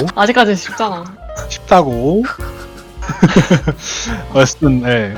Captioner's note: laugh